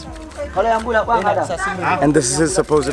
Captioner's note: foreign language